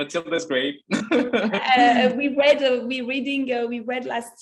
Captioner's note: laughs